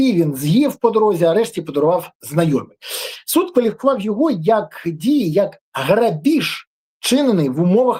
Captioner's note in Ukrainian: сопіння